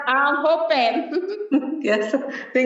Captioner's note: laughs